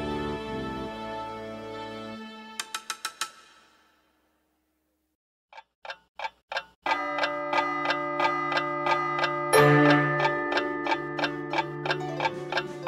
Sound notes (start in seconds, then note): 2.6 conductor Taps Baton; 5.5 clock Ticking; 6.9 bell Chimes 5 Times; 10.1 ticking Continues